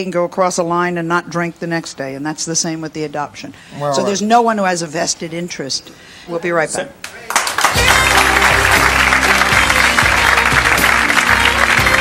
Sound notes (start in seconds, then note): 7.0 audience clapping; 9.4 jazz music